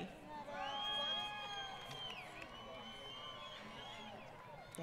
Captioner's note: crowd Cheering